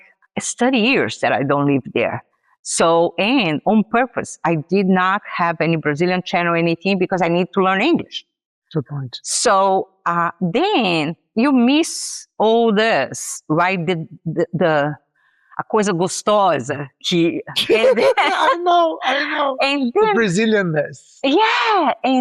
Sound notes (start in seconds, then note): 17.6 laughs